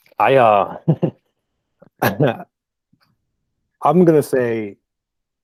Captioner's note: chuckles